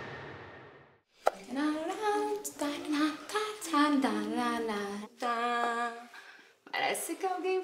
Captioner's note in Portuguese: duda cantarolando